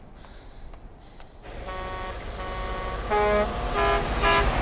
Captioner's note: horns honking